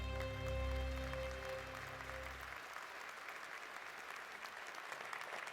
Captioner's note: audience applauding